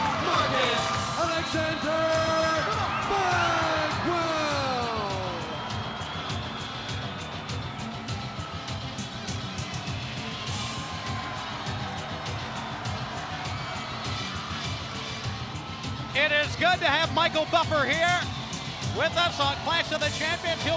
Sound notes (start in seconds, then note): 5.8 exciting music; 5.8 spectators cheering